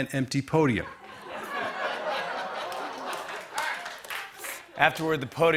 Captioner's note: laughter